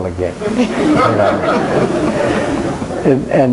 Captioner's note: crowd laughing